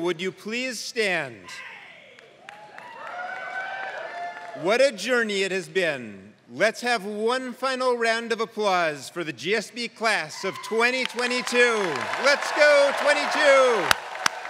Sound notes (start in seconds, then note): 2.1 applause